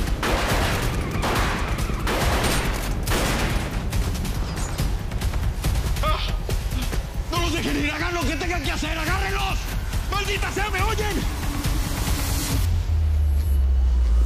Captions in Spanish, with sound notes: [Disparos] - ¡No los dejen ir! ¡Hagan lo que tenga que hacer! ¡Agárrenlos! ¡Maldita sea! ¡¿Me oyen?!